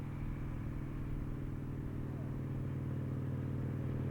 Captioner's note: motorcycle engine running